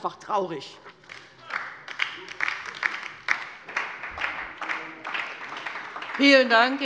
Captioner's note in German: Beifall bei der LINKEN